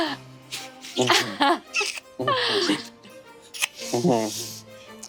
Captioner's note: Brennan smooching reverently